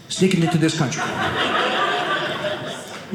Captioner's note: audience laughing